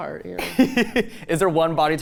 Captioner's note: laughs